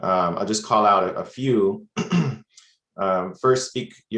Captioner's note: clears throat